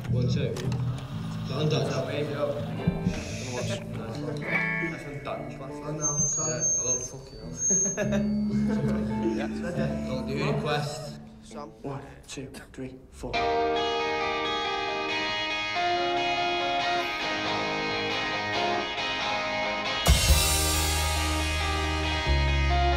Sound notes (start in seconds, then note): 1.0 chatter; 4.2 feedback